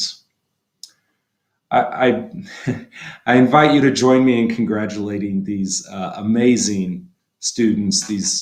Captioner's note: laughter